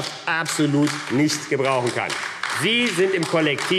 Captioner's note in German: Beifall AfD